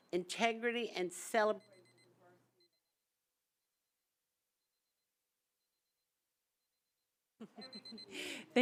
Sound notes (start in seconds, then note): 1.2 timer beeping; 3.6 SIlence; 7.4 timer beeping